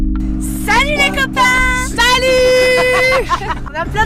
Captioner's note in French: rires